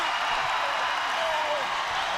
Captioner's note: crowd cheering